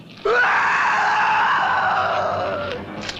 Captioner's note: screaming